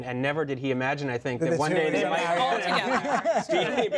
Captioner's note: laughter